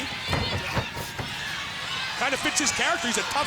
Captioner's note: crowd cheering; wrestlers grunting